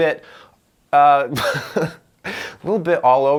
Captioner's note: laughing